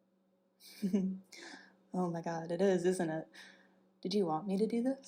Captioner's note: giggles